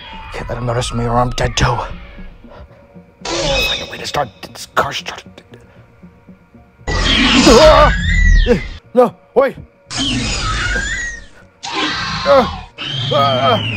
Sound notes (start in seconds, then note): 6.8 Raptor Squeals; 9.9 Raptor Squeals; 9.9 struggle Sounds